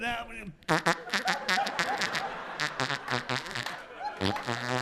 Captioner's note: audience laughing